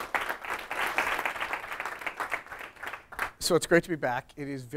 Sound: class applauding

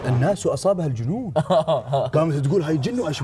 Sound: chuckles

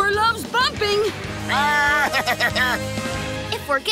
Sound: laughing

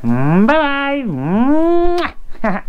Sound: smooches

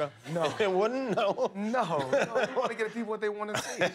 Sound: laughter

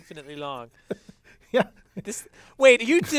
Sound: laugh

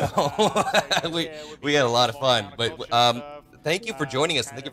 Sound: laughs

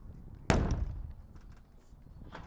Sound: bangs

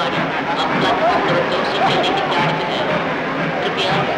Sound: train Running Sound

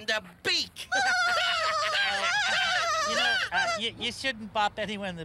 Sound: birds laugh

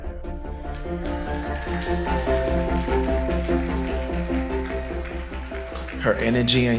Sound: audience applauding and cheering

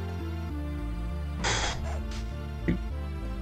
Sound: blow

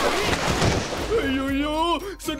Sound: screams

